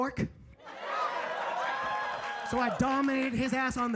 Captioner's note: audience laughing